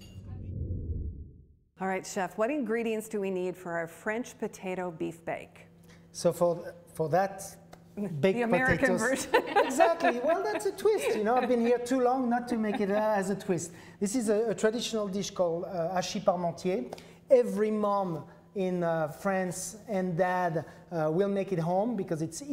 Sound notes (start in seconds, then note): 9.0 laughs; 15.0 speaks foreign language